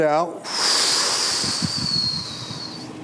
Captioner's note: exhales